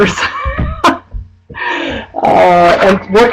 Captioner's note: chuckling